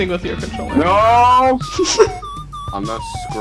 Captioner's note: flower laughing; sarcastically